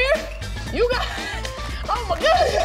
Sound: laughing; laughing; chuckling

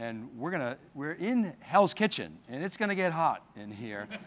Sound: laughing

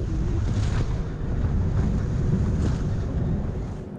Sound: wind rumbling

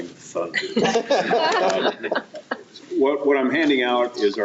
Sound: all laughing

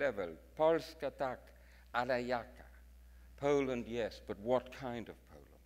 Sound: speaks in foreign language

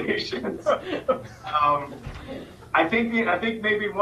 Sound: laughing

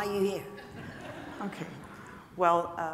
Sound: audience chuckling

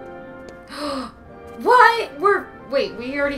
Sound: gasp

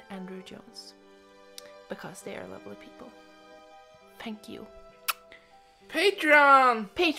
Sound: kiss

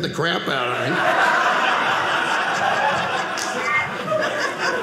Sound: audience laughing

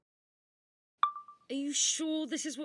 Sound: chime of a phone recorder turning on

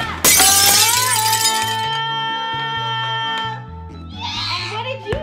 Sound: glass shattering

